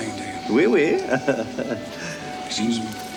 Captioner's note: chuckles